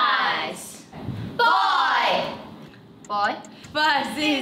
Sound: timer ticking

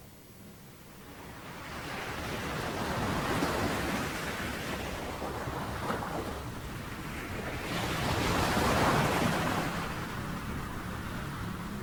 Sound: sound of waves on the beach

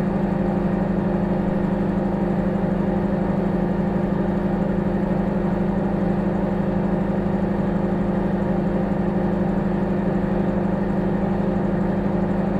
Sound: microwave humming

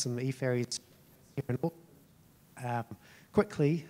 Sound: speaking faintly

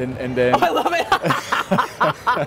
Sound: laughing; laughs

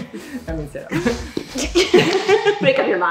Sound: laughing

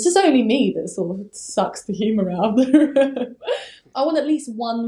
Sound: laughing

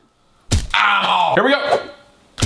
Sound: gum thuds

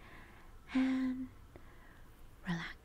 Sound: inhaling

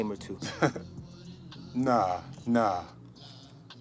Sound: chuckles

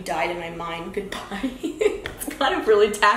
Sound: laughs

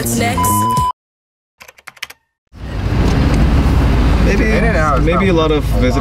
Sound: long beep; keyboard clacking

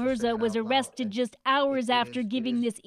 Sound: speaking Foreign Language

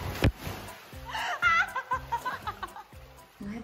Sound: laughs ♡

